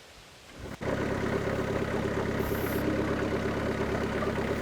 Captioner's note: engine rumbling